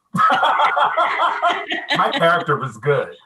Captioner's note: laughing